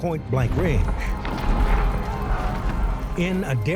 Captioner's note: armor clattering